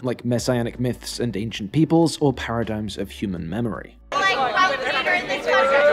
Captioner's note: clip TROY: *continuous screaming